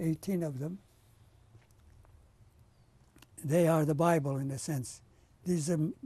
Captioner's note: pauses for 3 seconds